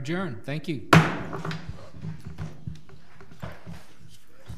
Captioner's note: gavel bangs